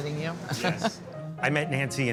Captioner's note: chuckles